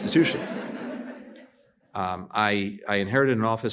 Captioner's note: laughter